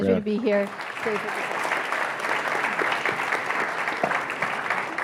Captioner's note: audience applauding